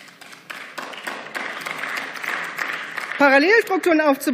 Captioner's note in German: Beifall